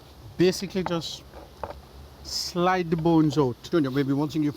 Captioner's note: utensils clunking